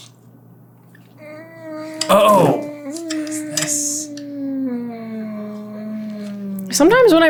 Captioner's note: close-mouthed whine of ponderance